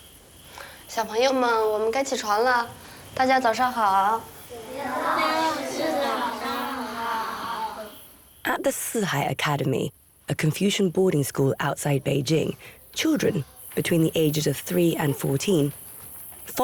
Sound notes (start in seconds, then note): 0.9 hablan un idioma extranjero